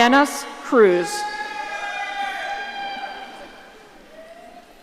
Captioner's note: audience cheering